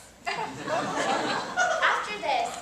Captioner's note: audience laughs